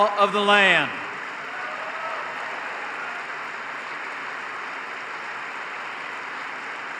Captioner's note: applause